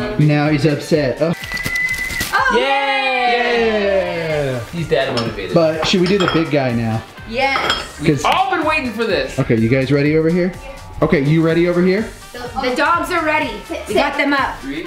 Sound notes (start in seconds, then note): 2.4 group shouts